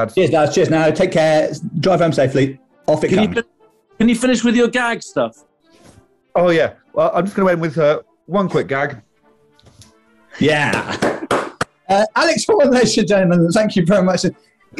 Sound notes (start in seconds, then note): 10.6 giggling; 10.6 applauding